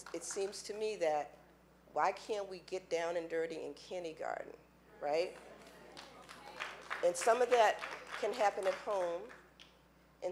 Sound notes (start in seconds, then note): 5.3 applause